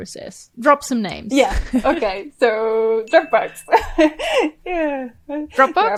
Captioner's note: chuckles; laughs